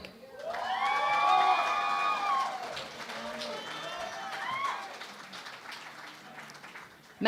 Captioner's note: cheering and Applause